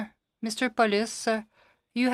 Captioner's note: speaking French